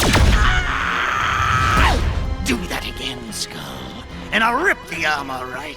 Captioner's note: screams